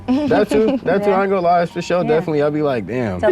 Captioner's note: laughs